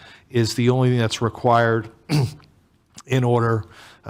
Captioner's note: clears throat